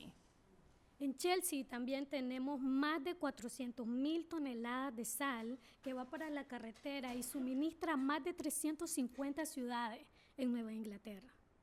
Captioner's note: speaking spanish